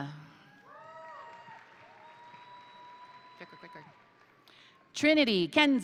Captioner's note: crowd cheering; crowd applauding